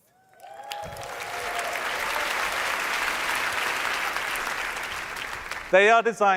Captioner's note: applause